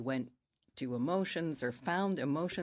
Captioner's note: speaking French